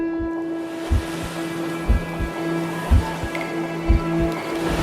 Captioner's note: tranquil music; waves crashing